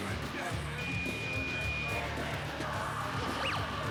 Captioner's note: beeping